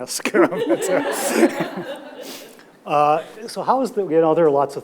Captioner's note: audience laughs